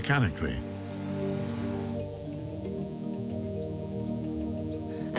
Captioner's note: laser buzzing